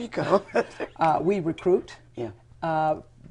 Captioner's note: laughter